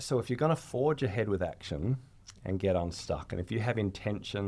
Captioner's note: none